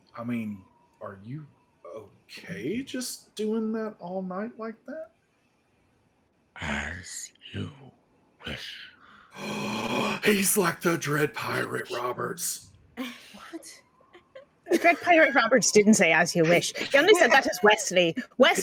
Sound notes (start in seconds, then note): 6.9 heavy voice; 8.9 gasps